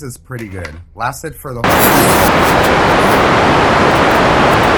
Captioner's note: startling static